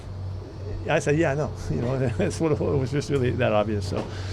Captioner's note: laughs